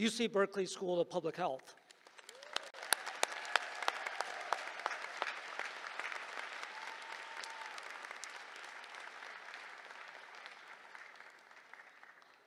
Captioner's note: applause